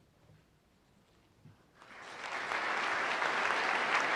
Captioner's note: applause